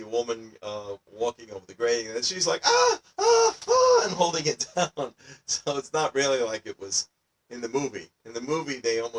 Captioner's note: sounds of panic